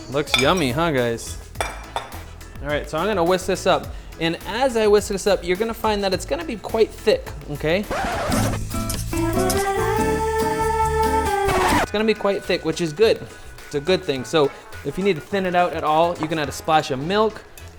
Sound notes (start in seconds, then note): 7.8 record scratch; 7.9 elevator music; 11.4 record scratch